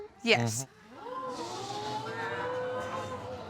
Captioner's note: audience exclaiming